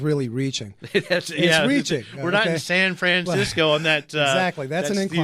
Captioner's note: laughs